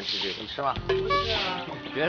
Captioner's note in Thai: โทนเสียงหว่านล้อมตามมาตราฐาน